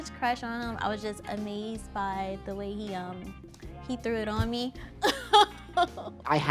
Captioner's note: laughing